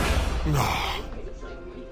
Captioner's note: groan